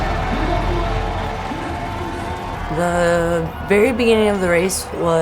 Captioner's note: crowd cheers